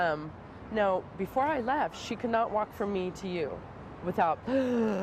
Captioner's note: gasping